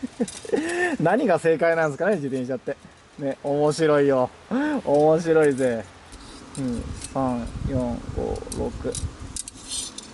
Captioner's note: laughs; laughs